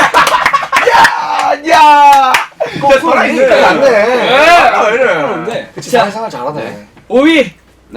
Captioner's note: cheering